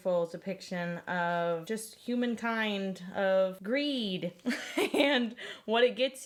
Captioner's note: laughs